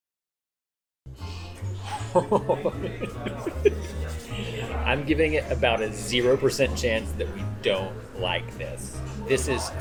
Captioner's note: giddy laughter